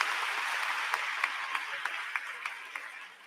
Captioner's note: applause